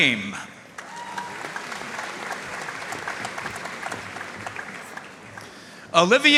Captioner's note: audience cheering and applauding